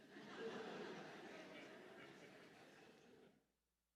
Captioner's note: laughter